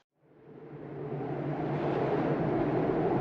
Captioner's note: wind